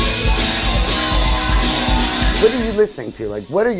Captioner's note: crowd cheering